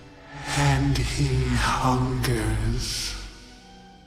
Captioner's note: 回音淡出